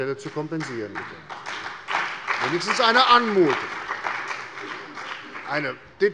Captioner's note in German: Beifall bei der CDU und dem BÜNDNIS 90/DIE GRÜNEN